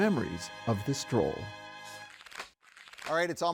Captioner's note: paper fluttering